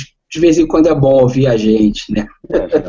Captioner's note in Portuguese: risos